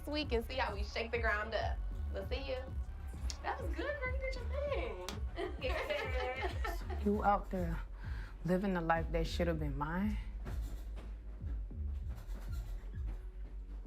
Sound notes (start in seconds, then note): 5.3 laughings; 10.8 brooding music